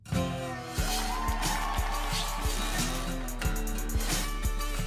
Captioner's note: crowd cheers; country music